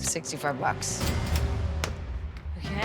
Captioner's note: cash register dings